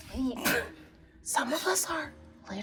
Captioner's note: laughing